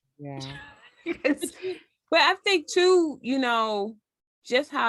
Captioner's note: laugh